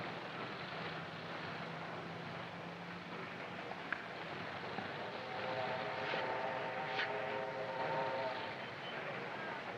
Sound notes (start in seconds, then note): 5.2 train horn blaring